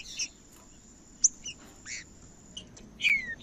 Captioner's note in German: trinca ferro cantando